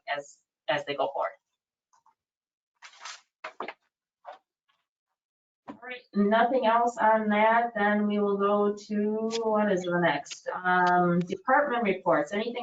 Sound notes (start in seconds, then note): 2.8 papers rustle; 2.9 object clatters